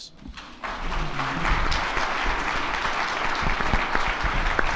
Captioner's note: attendees clapping